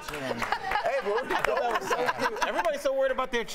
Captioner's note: laughter